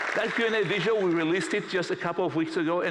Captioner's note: applause